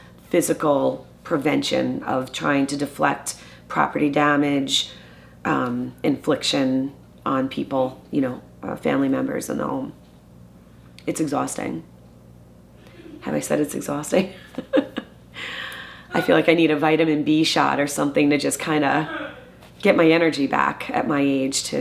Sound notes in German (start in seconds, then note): 16.1 lacht